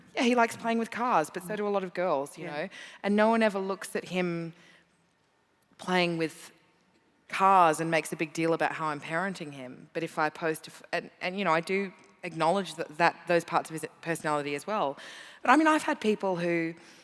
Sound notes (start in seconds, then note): none